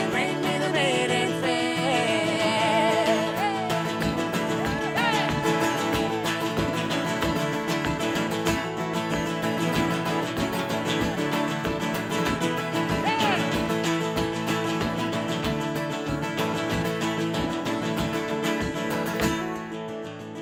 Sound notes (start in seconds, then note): 4.2 boot stomping; 4.2 upbeat guitar music